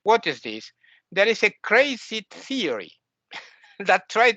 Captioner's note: laughs